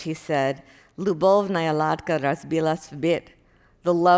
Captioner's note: speaking Russian